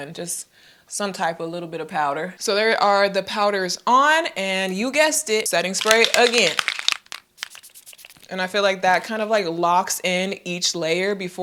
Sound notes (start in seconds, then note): 5.6 spray can rattles; 7.4 spray hisses